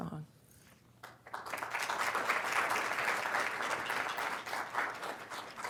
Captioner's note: applause